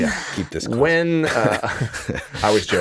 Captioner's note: all chuckling; chuckle